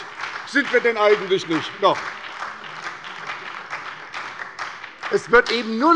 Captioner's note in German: Beifall bei der SPD